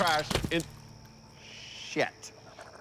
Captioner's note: cracking sound